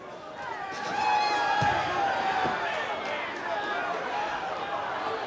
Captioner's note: crowd cheering